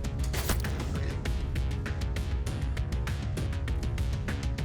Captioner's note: mellow upbeat music; crossbow bolt thudding; mellow upbeat music